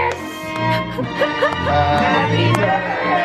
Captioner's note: laughing happily